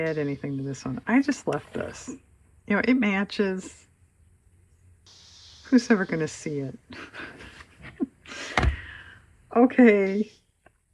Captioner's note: laughs